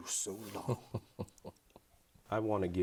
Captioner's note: chuckles